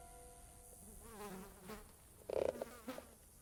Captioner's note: fly buzzing